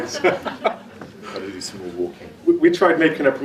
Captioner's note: laughs